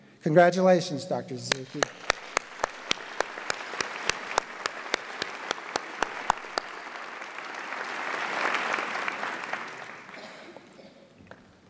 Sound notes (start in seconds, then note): 2.2 audience applauds